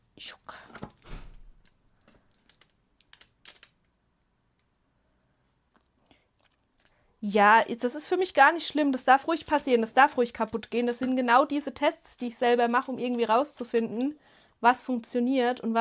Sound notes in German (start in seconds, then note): none